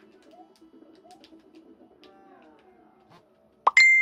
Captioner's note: loud notification ping incoming, sorry!